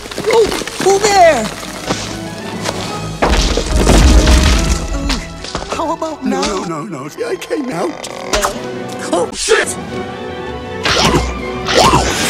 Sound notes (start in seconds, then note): 3.1 log Creak; 10.7 bite Sounds